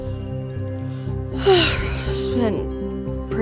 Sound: yawning

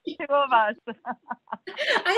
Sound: laughs

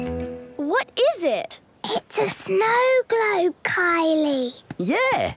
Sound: whispering

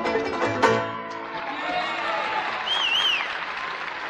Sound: cheers, applause

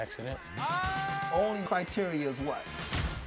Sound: screams

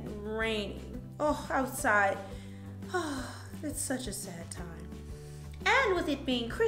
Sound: sighs

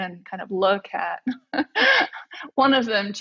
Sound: laughs

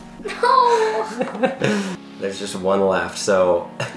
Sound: laughing

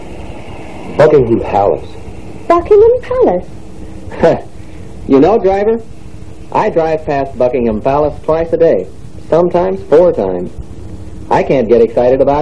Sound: laughs

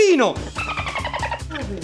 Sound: sound of a dolphin

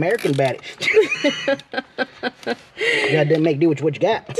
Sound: laughs

